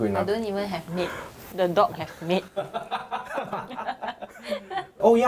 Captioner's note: laughs